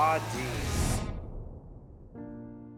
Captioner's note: image whooshes; soft music